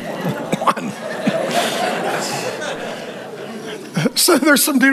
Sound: congregation laughing

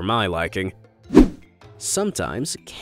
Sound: image whooshing

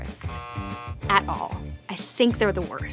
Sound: buzzer buzzing

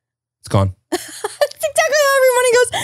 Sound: laughs

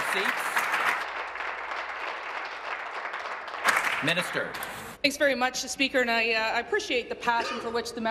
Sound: applause

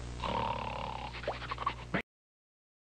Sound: snoring

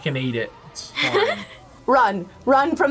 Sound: laughs

